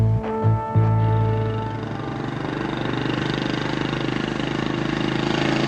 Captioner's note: motorcycle engine